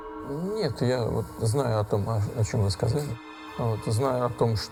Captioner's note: speaking foreign language